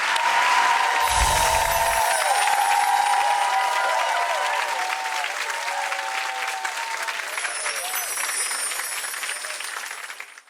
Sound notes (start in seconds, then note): 0.0 cheering; 1.0 light music